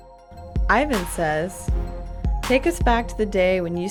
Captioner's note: voiceover